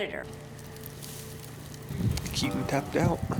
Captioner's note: fire crackling